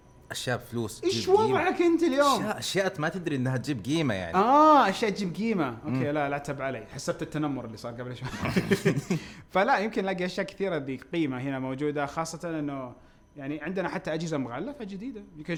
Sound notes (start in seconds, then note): 8.2 both laugh